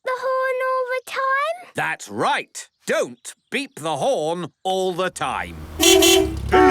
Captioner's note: beeping